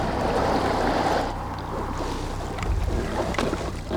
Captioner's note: traffic humming